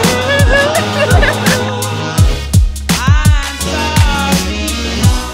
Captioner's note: women laughing